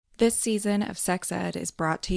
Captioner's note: voiceover